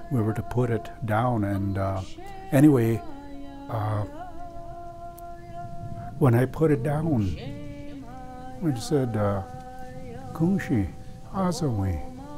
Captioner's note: speaking dakota